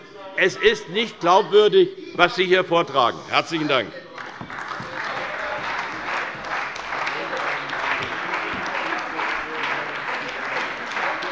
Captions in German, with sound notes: Es ist nicht glaubwürdig, was Sie hier vortragen. - Herzlichen Dank. [Beifall bei der CDU und bei Abgeordneten des BÜNDNISSES 90/DIE GRÜNEN]